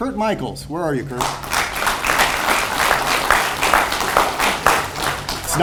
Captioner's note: audience applauds